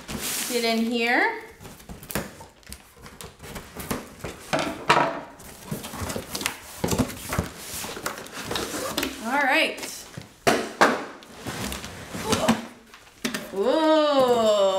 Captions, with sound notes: Get in here. (rustling) Alright! (bang) Oh!